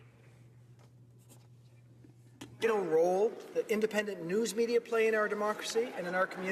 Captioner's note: applause